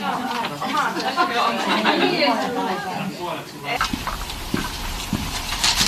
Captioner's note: puheensorinaa